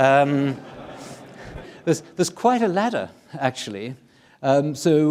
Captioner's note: audience laughing